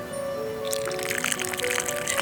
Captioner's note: sound of pouring water